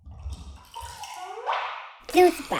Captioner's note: juice sipping